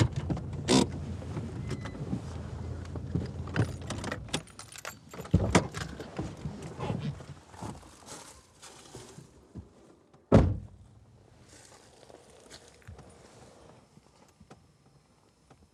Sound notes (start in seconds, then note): 0.0 parking brake cranking; 10.2 car door thudding